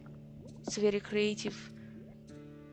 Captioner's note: half-sarcasm